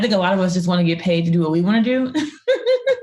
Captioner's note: laughs